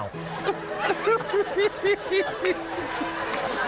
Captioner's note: all laughing